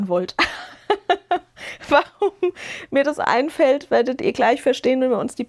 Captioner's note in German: gelächter